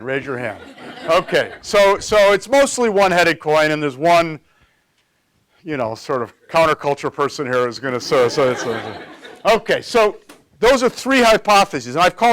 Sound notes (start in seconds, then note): 0.3 audience giggles; 7.9 audience laughs